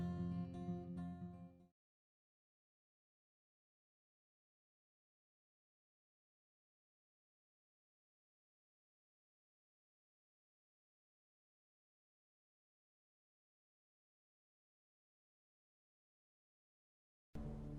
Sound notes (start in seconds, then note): 2.6 silence